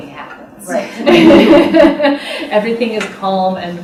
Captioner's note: laughter